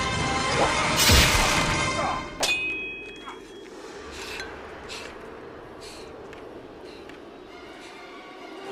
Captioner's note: arm brutalised sound; groaning and breathing